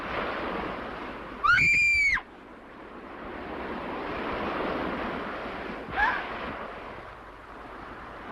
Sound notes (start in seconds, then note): 1.4 screams